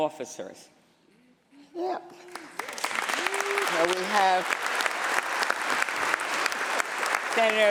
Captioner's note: applause